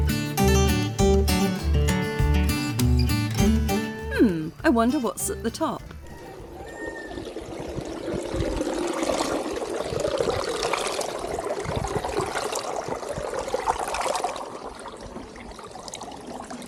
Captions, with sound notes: Hmm. I wonder what's at the top? [water flowing] [rooster crowing]